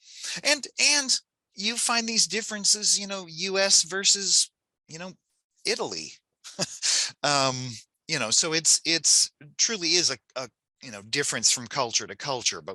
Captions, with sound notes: And you find these differences, US versus Italy. (chuckles) So, it's truly is a difference from culture to culture.